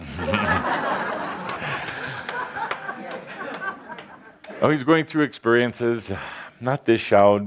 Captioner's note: laughter